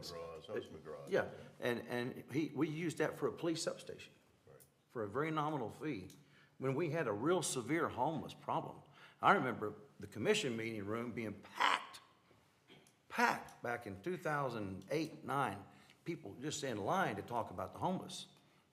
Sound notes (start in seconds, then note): none